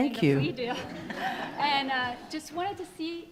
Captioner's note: attendees laughing